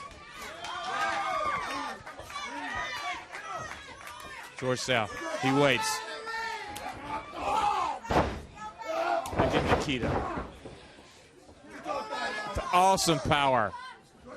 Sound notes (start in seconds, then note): 2.0 crowd cheering; 2.9 crowd chatter